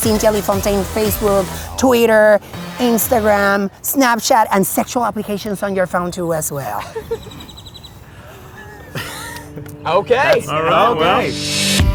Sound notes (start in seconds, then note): 8.3 Zach giggles